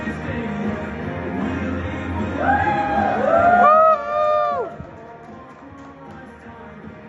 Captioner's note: cheers